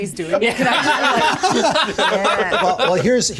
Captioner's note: players laughing